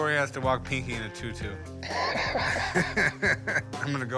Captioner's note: both laughing